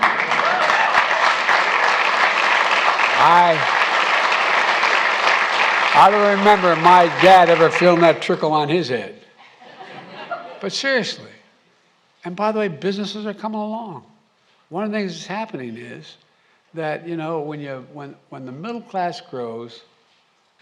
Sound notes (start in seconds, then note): 0.0 applause; 9.4 laughter